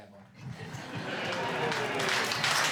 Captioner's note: audience clapping